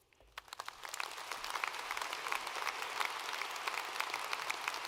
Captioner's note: audience applauding